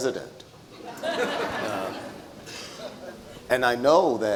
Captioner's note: audience laughs